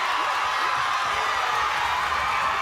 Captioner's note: crowd cheering